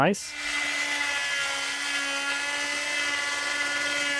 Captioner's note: saw whirring